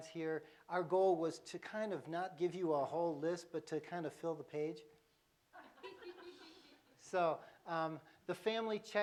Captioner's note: laughter